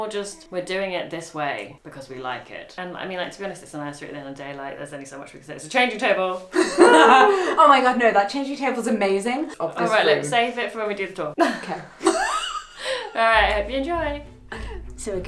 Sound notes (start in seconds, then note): 6.5 laughs; 6.8 cheering; 11.4 laughs